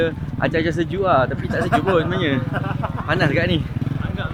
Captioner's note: laugh